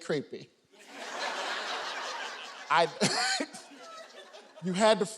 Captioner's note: audience laughing